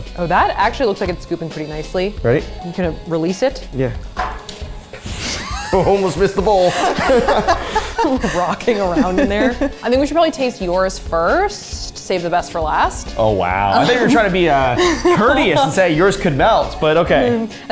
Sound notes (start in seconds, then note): 6.5 laughing